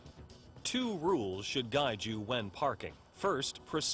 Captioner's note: voiceover